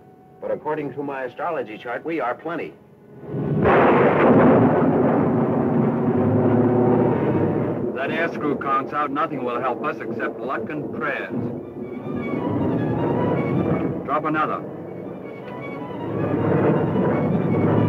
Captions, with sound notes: but according to my astrology chart we are plenty. (thunder crashing) - That air screw conks out nothing will help us except luck and prayers. (dramatic music) Drop another. (engines rumbling)